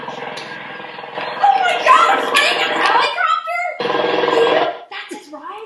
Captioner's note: helicopter sounds